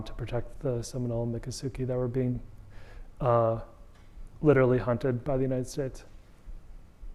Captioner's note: audience member speaking